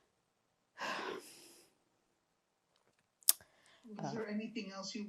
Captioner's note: sighing